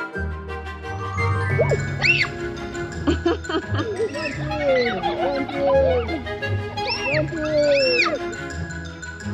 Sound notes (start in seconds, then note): 1.5 screams; 3.0 laughs; 4.2 kids screaming